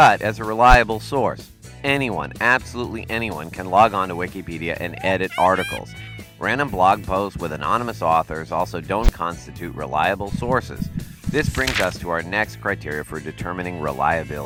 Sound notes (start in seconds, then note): 7.5 laptop opens and cat laughs